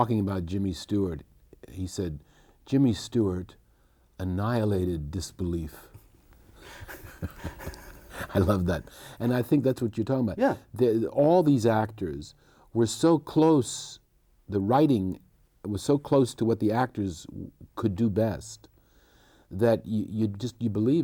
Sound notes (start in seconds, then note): 6.6 both laughing